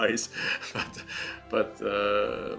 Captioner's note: chuckles